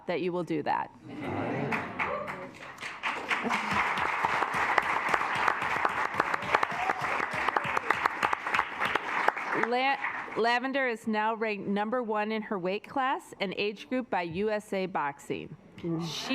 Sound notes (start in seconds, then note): 2.6 assembly clapping; 3.2 assembly chuckling